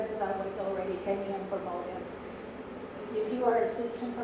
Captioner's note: faintly speaking